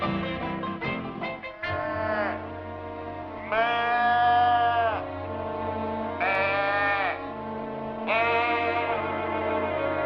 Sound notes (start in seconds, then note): 1.8 bleating